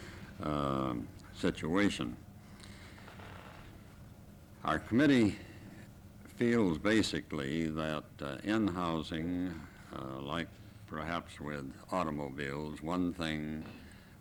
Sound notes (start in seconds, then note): none